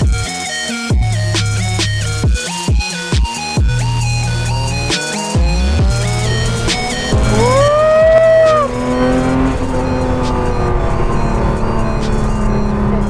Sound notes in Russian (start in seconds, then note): 7.8 издает звуки счастья